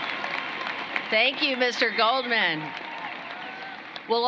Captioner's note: cheering and applause